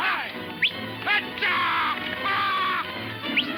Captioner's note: man whistling